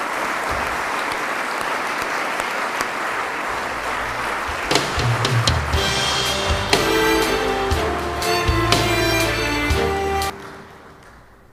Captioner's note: applause